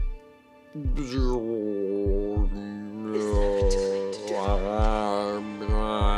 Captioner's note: dramatic music; speaking distortedly